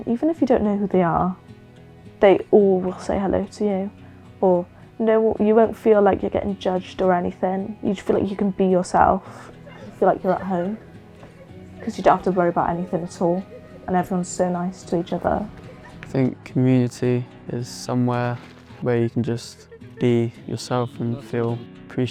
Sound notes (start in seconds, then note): 11.1 laughter